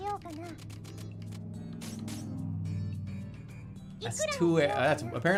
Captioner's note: vroomer passes